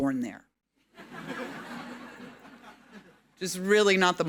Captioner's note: audience laughing